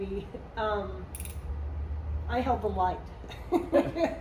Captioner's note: laugh